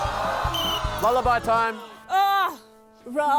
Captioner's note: blows whistle